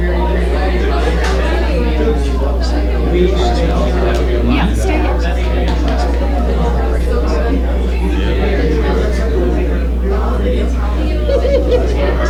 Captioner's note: crowd chatter